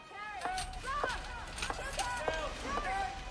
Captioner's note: staff shouting